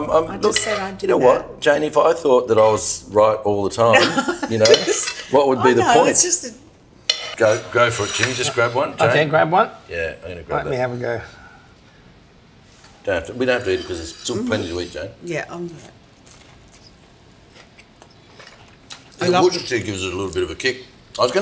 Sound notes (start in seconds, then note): 3.9 laughs